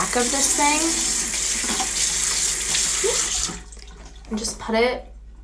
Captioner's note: water running